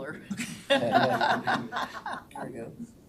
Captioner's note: all laughing